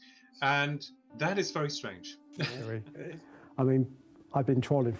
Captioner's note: chuckles